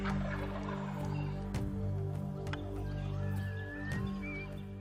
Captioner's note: turkey call yelps; turkey gobbles